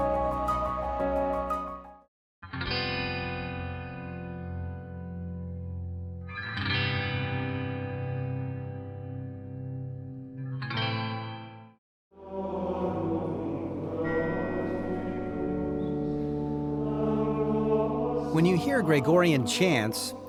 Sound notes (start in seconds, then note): 2.3 upbeat music; 12.2 gregorian chant music; 14.2 bell rings